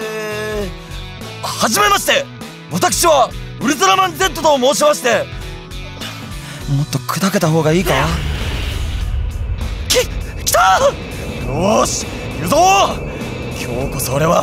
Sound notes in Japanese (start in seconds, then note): 9.2 飛行音